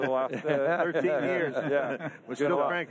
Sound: group laughter

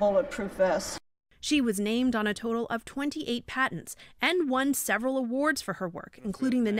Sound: voice-over

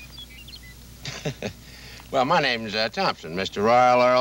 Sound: chuckles

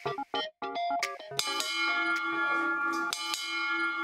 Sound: ding

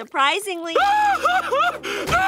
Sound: sobbing

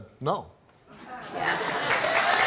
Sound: audience laughs; audience applause and jeers

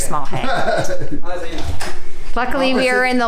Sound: laughs

